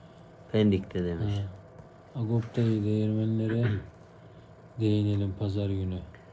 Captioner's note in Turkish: boğazını temizler